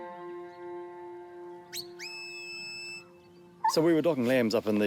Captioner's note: dog barks; whistles